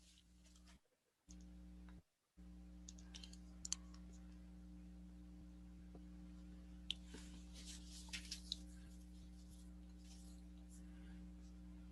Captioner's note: sounds of keyboard typing and mouse clicking